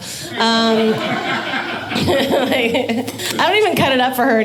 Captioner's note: audience laughing